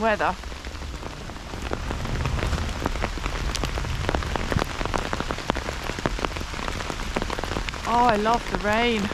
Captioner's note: rain